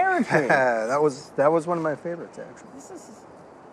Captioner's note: chuckles